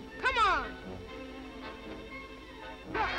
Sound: yelling

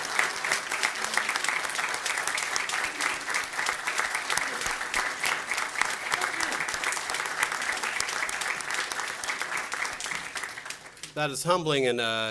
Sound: applause

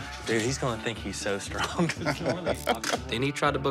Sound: laughs

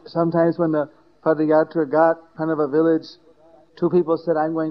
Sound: none

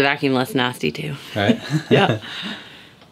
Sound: laughs

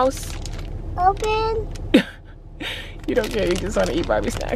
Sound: laughs

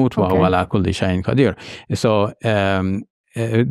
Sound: speaks in Arabic

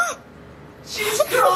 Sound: gasping

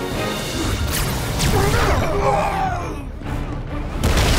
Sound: shouting

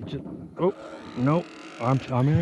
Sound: reel cranking

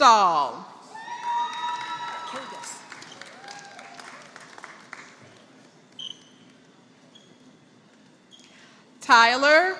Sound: applause

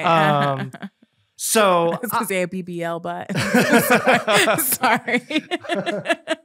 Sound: both laughing

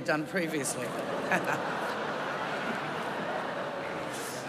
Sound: laughter

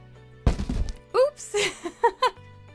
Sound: crash

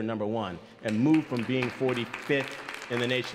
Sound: audience applauds

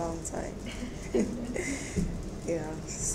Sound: audience chuckles

